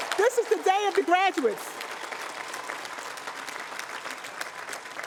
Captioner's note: cheering, applause